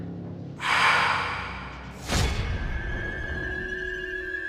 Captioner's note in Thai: เสียงถอนหายใจ